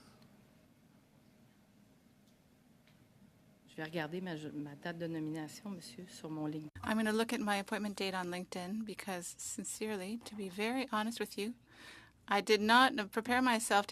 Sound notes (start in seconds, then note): 8.1 speaking French